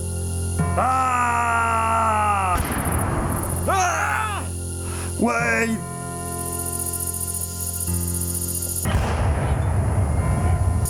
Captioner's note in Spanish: grito